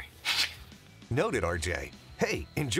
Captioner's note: faintly laughing